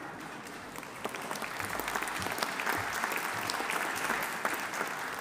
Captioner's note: audience applauding